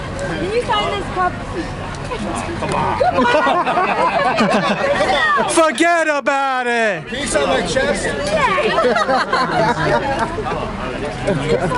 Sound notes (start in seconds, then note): 2.6 laughter; 8.6 laughter